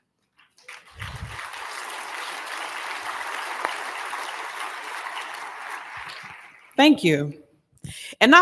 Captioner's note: applause